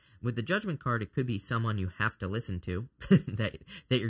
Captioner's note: chuckles